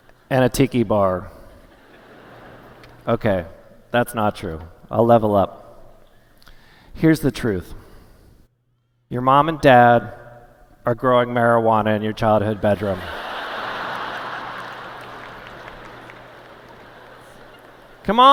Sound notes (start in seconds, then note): 10.0 laughter